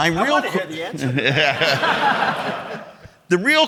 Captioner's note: audience laughing